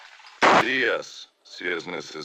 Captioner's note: gunshot